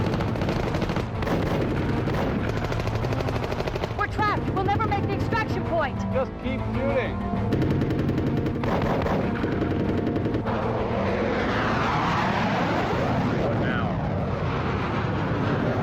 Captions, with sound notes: - We're trapped, we'll never make the extraction point. - Just keep shooting. (guns firing) (engine whooshing) What now?